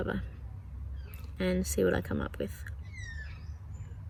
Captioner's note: bird calls